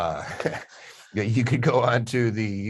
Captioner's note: both laugh